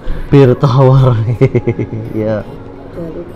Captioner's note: chuckles